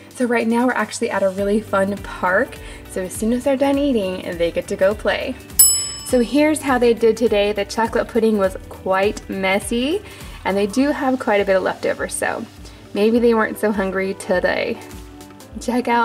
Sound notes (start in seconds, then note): 5.6 timer dings